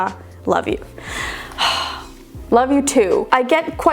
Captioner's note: sighing